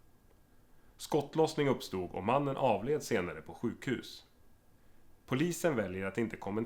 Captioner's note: radio voice